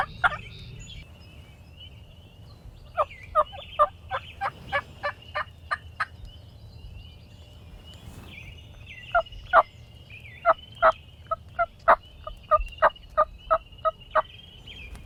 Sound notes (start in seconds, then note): 3.3 hunter continues using turkey call